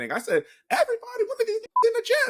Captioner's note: beep